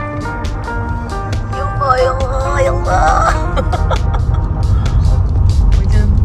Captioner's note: laugh